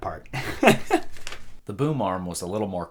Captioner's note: laughing